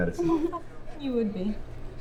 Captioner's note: Sherlock giggles